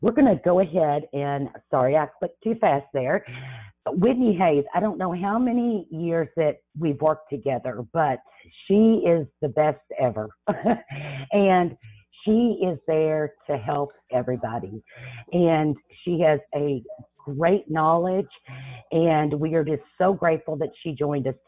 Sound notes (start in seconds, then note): 10.4 chuckles